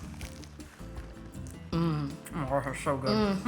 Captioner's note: fritters crunching